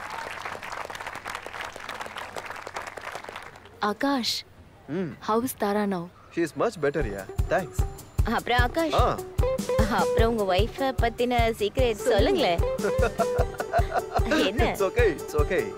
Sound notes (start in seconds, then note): 0.0 applause; 12.7 giggling